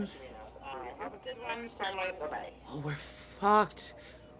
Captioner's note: DISTORTED VOICE: And the dish ran away with the spoon